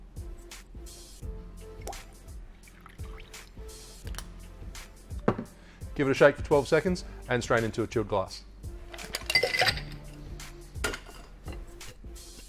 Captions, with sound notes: (syrup plops) Give it a shake for 12 seconds and strain into a chilled glass. (ice clinks)